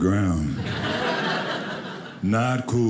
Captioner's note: audience laughing